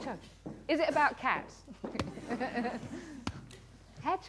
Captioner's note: laughter